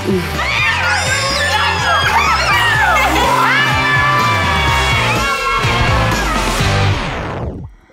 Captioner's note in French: cris des enfants